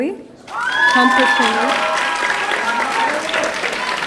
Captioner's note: audience cheering